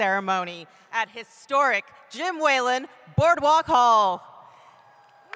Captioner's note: cheering